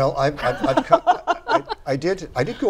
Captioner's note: laughter